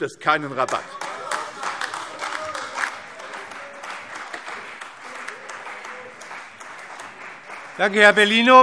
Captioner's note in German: Beifall CDU, AfD und vereinzelt Freie Demokraten